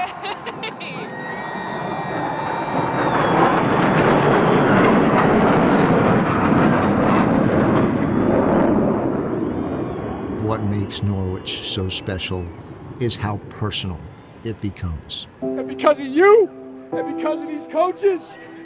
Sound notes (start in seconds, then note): 0.0 laughing; 3.5 B-2 Stealth Bomber roaring